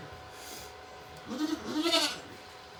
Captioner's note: Maybel Bleating